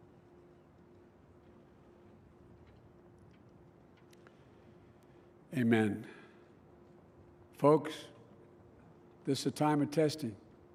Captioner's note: moment of silence